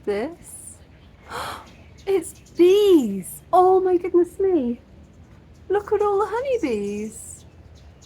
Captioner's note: gasp